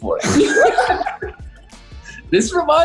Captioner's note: laughing